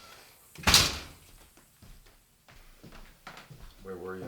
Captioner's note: door closing